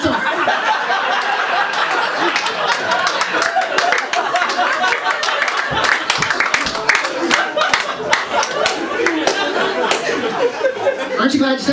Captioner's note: laughter